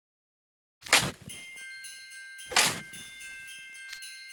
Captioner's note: crunch, crunch!